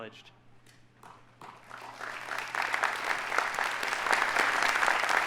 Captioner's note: audience applauding